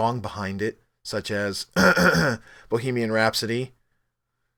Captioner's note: cough cough